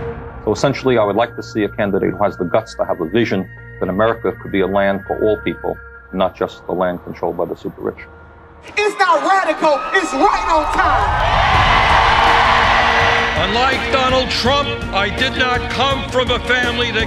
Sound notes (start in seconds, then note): 9.6 large crowd applause